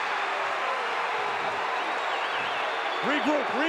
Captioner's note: audience cheering